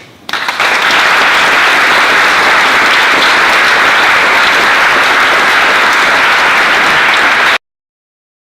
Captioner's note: applause